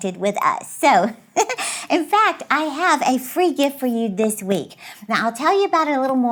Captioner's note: laughs